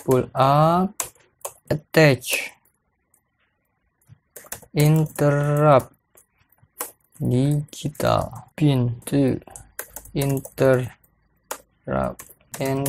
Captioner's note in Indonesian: typing code